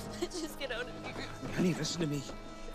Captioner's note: Karen crying